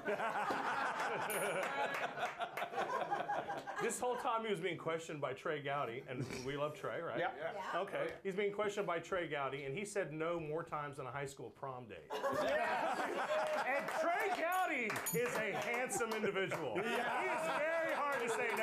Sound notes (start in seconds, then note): 3.8 bell Rings; 4.0 laughter; 13.0 applause; 14.4 bell rings